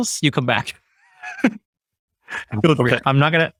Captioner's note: chuckles